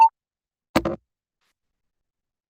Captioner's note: plink